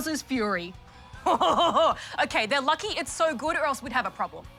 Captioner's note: chortles